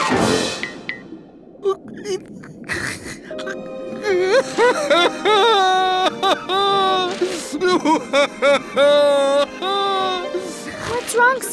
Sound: crying

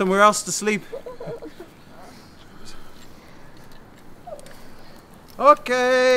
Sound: fading crying

